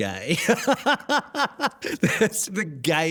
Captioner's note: laughs